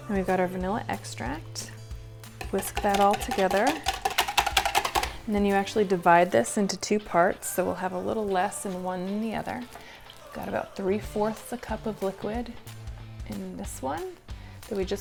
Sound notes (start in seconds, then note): 2.4 whisk clanging